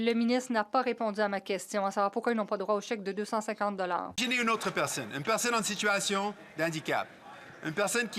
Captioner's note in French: voix de l'interprète